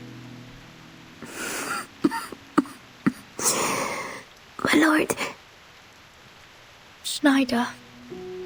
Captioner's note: cough